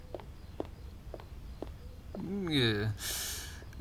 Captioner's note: sounds of receding footsteps, door opening and closing